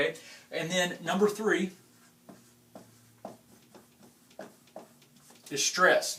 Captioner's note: tapping